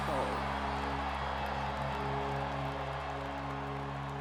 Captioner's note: audience cheering